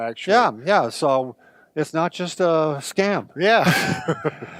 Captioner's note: chuckles